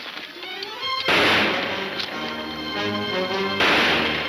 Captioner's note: gunshots banging